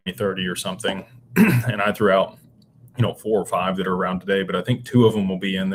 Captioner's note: clears throat